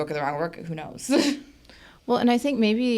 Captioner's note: chuckles